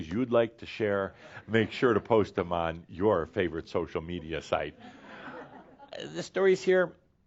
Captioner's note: more chuckles